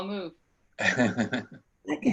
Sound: laughing

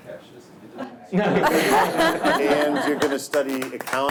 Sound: all laugh

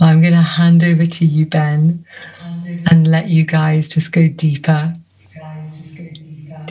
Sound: laughs

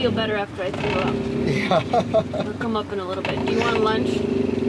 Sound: laughs

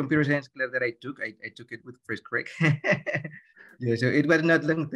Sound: laughs

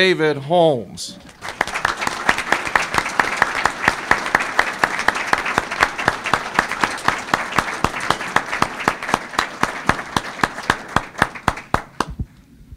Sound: applause

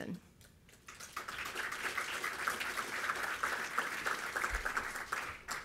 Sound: audience applauding

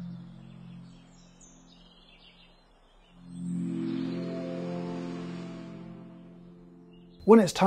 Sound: birds chirping; birds chirping through ocean waves

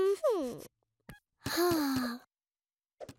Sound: sighs

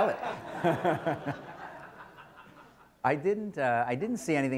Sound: laughter

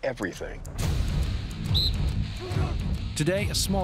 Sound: soldiers grunt; blows whistle

